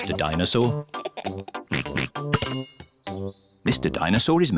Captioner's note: laughs and oinks